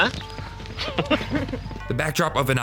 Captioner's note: laughter